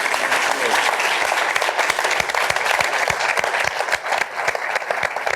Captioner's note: applause